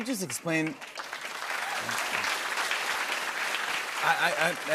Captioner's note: applause